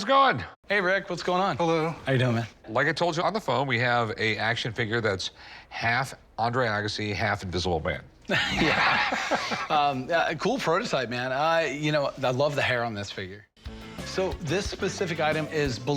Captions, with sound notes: Hey, Rick. What's going on? - Hello. - How you doing, man? Like I told you on the phone, we have a action figure that's half Andre Agassi, half Invisible Man. [laughter] A cool prototype, man. You know, I love the hair on this figure. So this specific item is believed